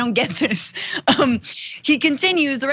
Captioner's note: laugh